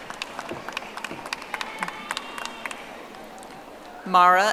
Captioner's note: audience applauding